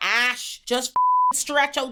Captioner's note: beep